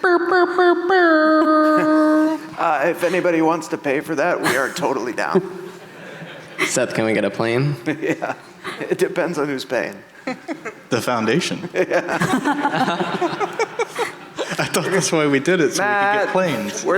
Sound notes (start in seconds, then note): 11.8 laughing